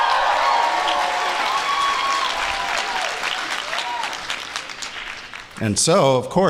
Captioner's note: applause